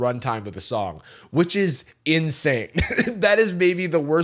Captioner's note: chuckles